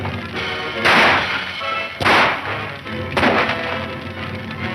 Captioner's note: shots fire